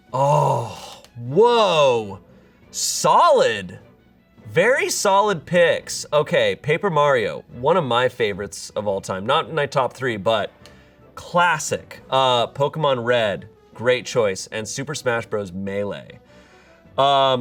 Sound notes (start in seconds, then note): none